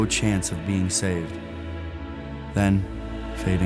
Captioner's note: voiceover